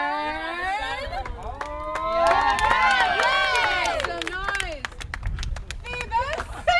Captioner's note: cheers and applause